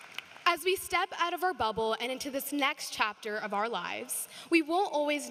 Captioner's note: applause